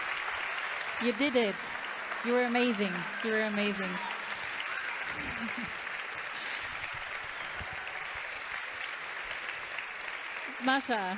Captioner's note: English